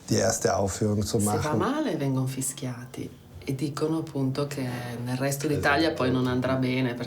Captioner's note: speaks in foreign language